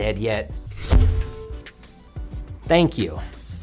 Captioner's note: poof noise